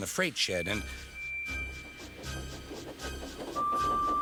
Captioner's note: frightening music playing; engine whistles, puffing